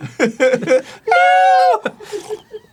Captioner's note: both scream with childlike pitch